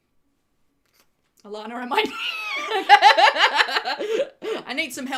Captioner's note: laughs